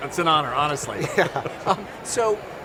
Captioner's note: laugh